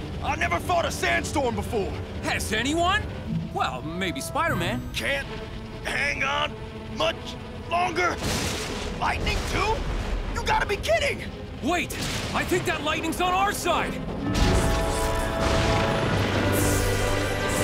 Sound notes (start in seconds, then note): 8.2 lightning crashes; 14.6 inspirational music